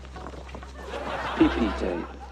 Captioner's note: laughter